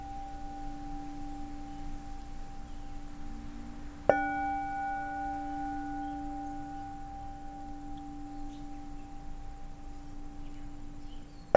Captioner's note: bell